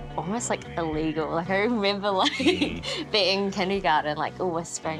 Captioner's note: chuckles